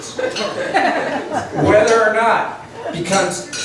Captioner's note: laughs